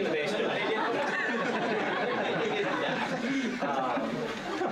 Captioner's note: laughter